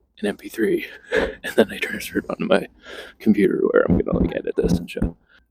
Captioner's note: chuckles